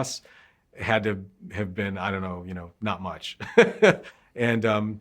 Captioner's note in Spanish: Ríe